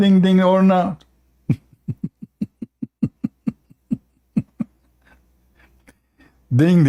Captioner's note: Ketawa